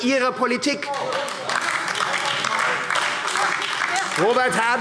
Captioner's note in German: Beifall AfD